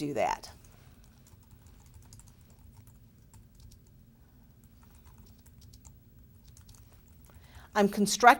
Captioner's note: pause